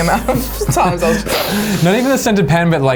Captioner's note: sniffing